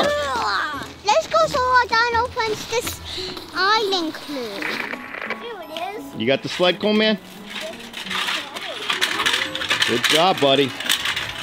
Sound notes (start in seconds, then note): 7.8 sled grinding on ground